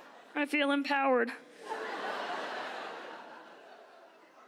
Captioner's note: audience laughs; audience laughs